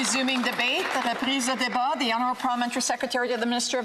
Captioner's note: some Applause